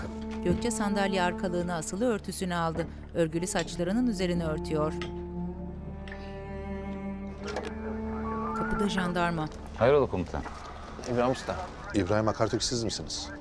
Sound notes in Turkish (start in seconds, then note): 7.4 Kapı açılma sesi; 8.4 Telsiz sesi